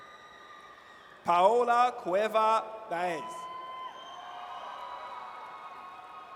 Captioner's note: audience cheers